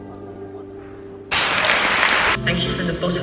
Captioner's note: applause